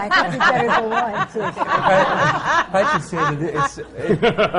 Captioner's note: laughter